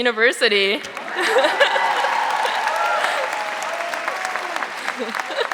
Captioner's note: audience applauding